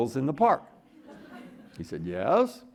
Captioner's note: audience laughing